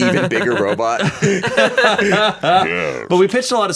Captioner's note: everyone laughs